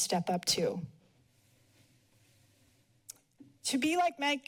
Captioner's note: pause